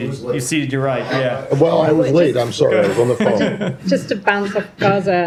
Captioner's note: laughter